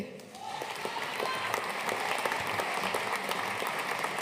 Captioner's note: audience applauding